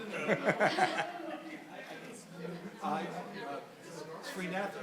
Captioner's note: people chattering